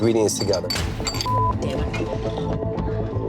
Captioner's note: beep; suspenseful music